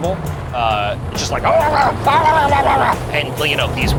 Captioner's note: grumbling